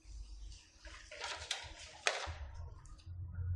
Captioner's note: papers rustling